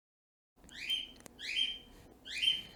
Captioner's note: birds chirping